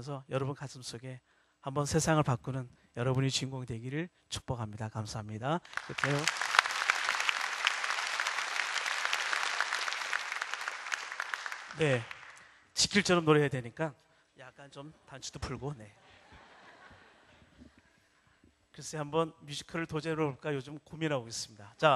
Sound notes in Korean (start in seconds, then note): 9.3 박수; 16.0 웃음